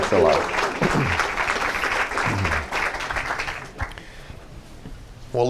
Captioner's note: clapping